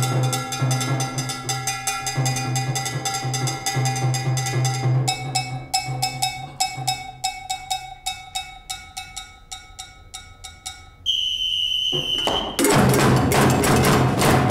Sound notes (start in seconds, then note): 10.9 whistle blows